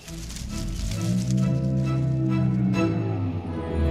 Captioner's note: growling